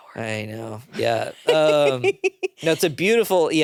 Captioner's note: laughs